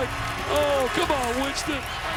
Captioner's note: crowd cheering